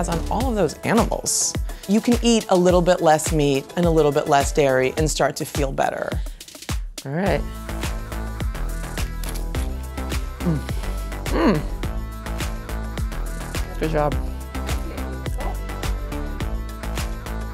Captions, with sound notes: on all of those animals. You can eat a little bit less meat and a little bit less dairy, and start to feel better. All right. (upbeat music) (chip crunches) Mm, mm, good job. (upbeat music)